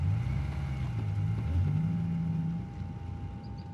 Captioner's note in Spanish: ruido de los autos